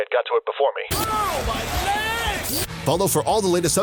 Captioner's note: totally fun mosh pit noises